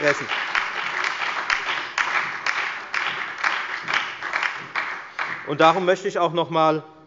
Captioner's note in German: Beifall bei der FDP, der SPD und der LINKEN